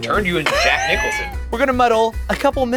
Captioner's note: wheezes